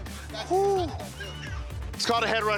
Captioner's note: people chattering